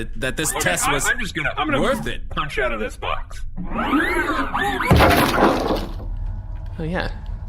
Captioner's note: mechanical wind-up noises, wood clattering